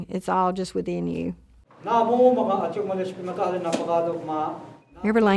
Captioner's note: praying in Choctaw